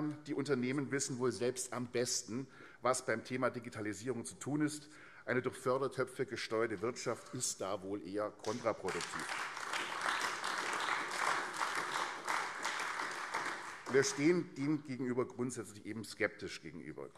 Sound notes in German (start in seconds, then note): 10.4 Beifall AfD